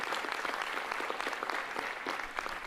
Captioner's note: applause